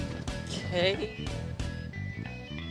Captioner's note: buzzer sounds